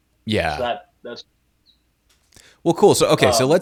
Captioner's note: audio cuts off